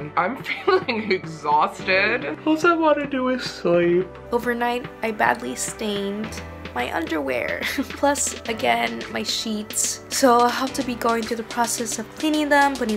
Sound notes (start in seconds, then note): 8.2 chuckles